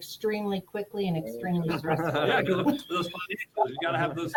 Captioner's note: group members laugh